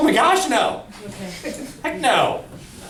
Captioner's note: voiceover